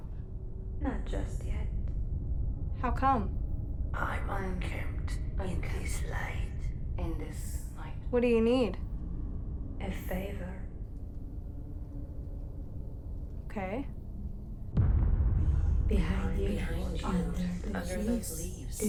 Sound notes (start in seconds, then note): 14.7 echoes